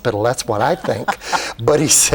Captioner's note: laughs